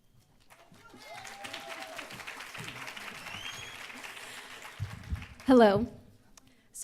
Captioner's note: applause